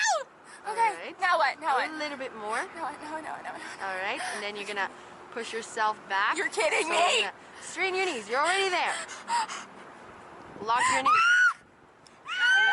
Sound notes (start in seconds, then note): 2.7 panicking; 9.7 gasps and screams